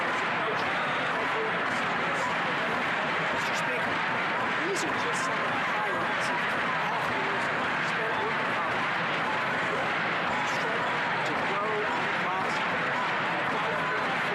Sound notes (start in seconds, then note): 10.6 chanting